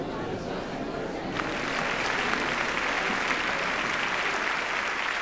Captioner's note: crowd applauding